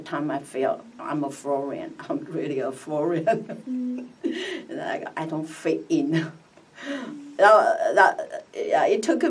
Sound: laughs

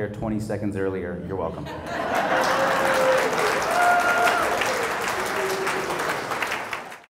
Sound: laugh; applause

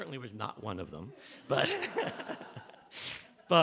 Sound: laughter

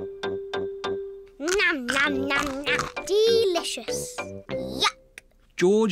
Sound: crunches

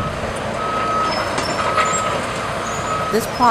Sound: sounds of construction

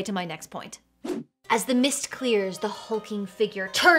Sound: air whooshes

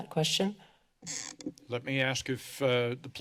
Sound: mic noises

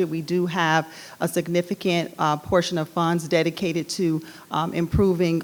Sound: none

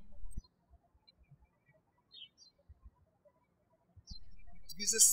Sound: birds chirping

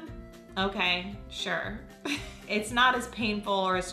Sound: laughs

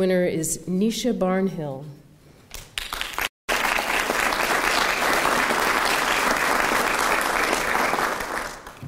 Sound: applause

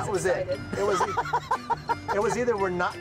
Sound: laughs

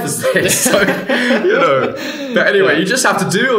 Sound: both laughing

